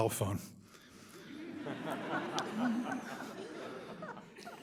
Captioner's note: audience laughs